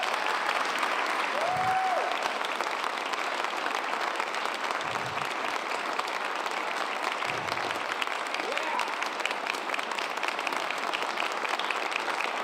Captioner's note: cheers and applause